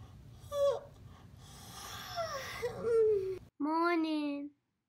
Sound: yawning

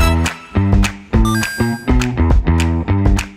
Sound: easy clap

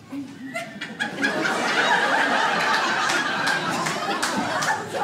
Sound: audience laughs

